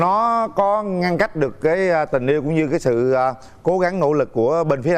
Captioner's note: none